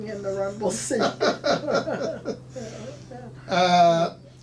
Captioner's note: laughing